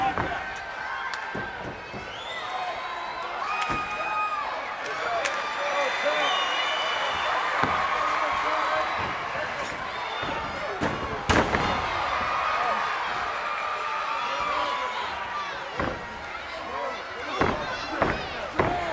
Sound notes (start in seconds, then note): 0.0 hands clap; 7.0 crowd cheers; 11.8 body thuds